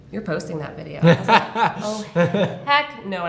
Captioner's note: laughter